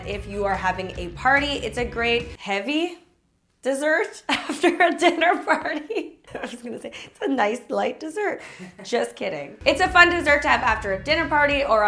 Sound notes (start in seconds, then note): 6.4 chuckling